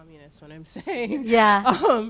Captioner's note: laughs